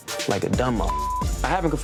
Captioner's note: beep